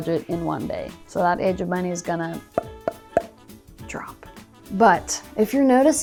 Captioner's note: pops